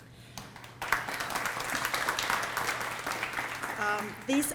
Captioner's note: applause